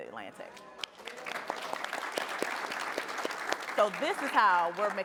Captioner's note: applause